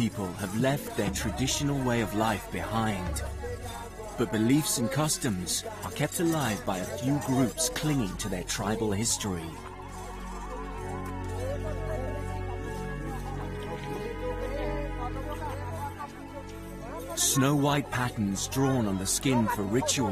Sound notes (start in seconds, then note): 6.2 Kikuyu people talk in foreign language